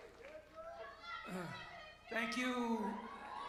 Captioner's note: cheers and applause